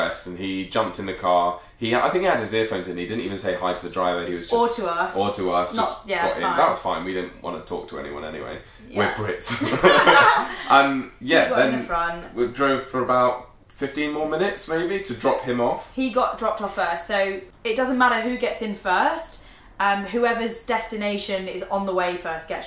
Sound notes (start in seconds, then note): 9.4 laughing